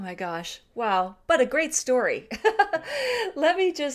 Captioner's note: laughing